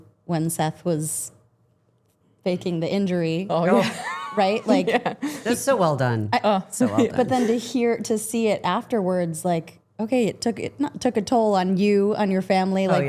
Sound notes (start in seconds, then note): 3.7 chuckles